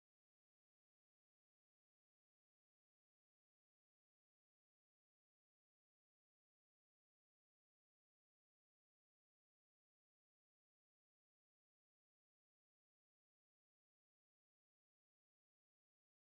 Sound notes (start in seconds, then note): none